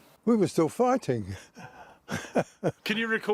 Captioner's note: laughter